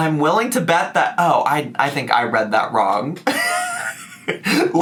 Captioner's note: laughs